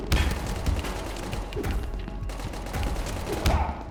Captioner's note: gunfire